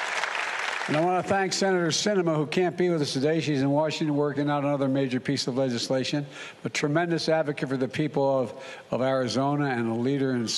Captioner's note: applause